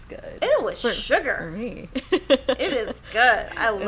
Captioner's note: laughs